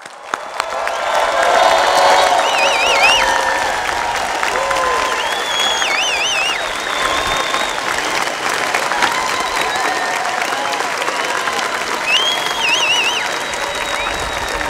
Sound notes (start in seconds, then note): 0.1 audience applauds and cheers; 5.5 audience whistles